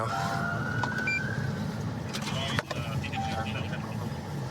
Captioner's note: police siren